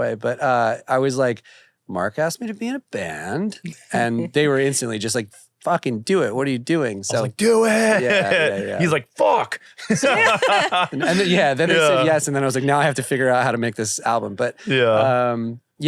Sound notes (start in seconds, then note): 9.8 laughs